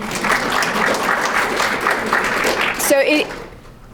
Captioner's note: crowd clapping